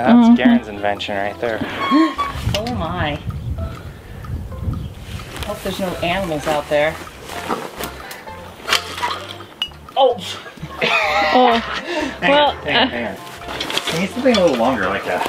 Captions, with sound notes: Garen's invention right there oh my hope there's no animals out there [laughter] we need something a little longer